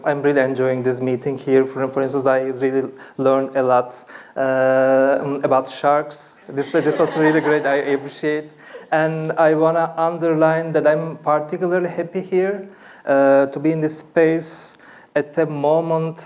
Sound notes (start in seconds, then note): 6.6 laughter